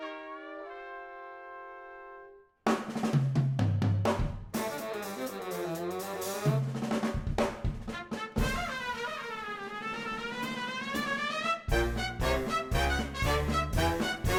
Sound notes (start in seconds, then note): none